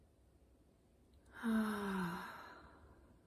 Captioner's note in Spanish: suspiro